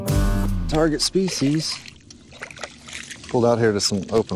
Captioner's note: water splashes